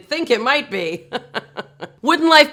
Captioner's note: laughing